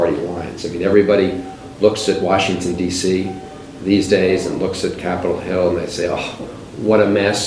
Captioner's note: scoffs